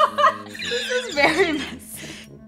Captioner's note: laughs